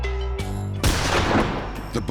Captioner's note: gunshot